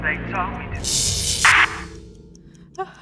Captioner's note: electromagnetic interference